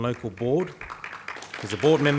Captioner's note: audience applauding